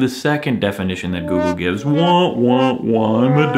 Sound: wah-wah sound

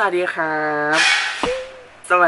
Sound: clang!!! WTH

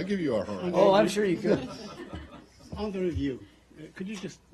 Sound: laughing

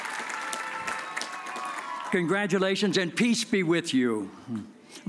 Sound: cheers and applause

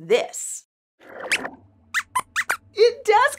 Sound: squeaks squeaks

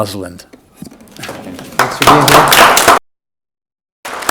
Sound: audience applauds

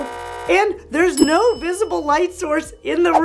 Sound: bell chimes; buzzer rings; bell chimes

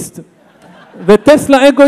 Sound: audience laughs

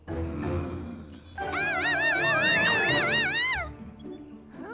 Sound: growls; screaming

